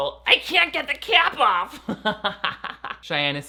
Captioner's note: laughing